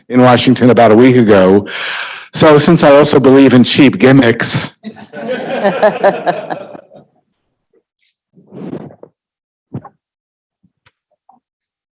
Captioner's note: laughing